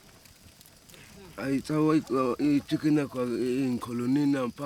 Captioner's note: speaking local language